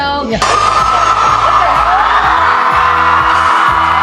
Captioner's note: crowd cheering